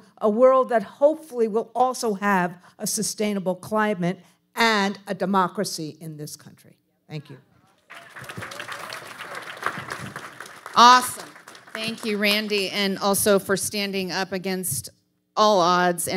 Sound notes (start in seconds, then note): 7.8 audience applauding